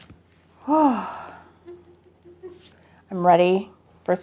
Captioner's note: sighing